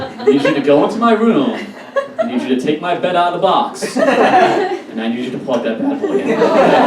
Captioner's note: audience Laughs; audience Laughs / Groans